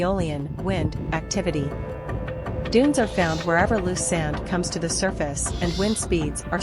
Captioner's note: wind